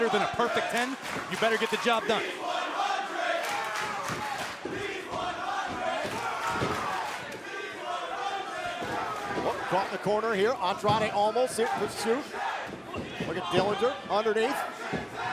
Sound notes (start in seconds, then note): 5.0 crowd cheering